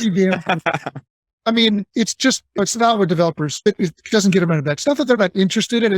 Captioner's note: laughing